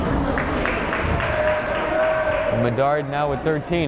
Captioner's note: clapping